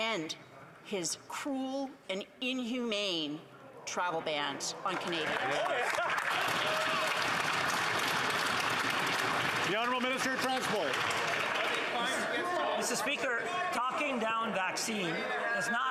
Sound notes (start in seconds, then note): 11.8 applause